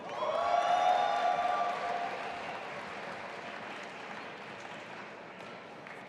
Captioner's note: audience applauding and cheering